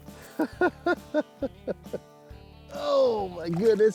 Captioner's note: laughs